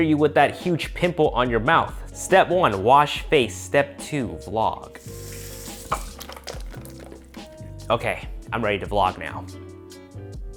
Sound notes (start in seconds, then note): 4.9 water running